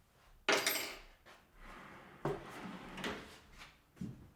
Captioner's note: metal clanking